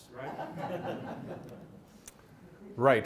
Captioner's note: laughter